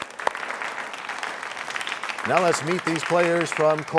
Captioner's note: applause